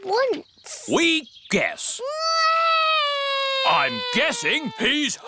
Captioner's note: alexander wails